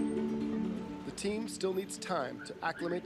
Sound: voiceover

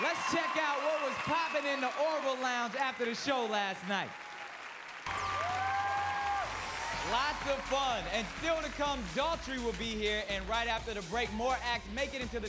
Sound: cheers and applause

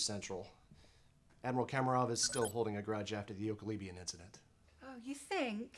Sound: communicator chirp

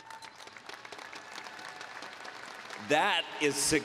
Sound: applause

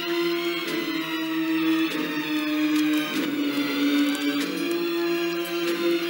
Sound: none

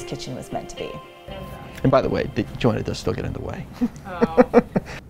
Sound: laughs

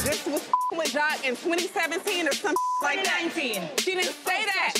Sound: beep; beep

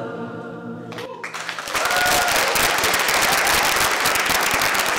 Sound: applause

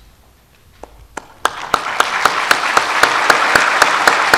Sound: audience applauds

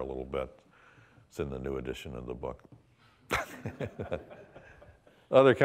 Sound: laughing

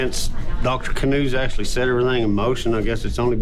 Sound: none

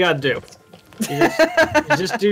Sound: laughs

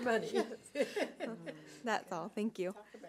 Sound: laughs

